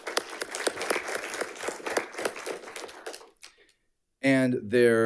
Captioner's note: audience applauding